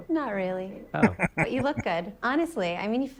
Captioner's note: chuckling